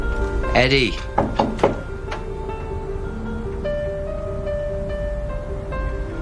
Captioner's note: bătând în peretele dulapului